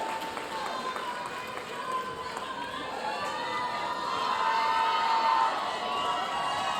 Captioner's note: audience chattering; audience cheering